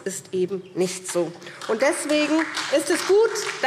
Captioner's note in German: Beifall SPD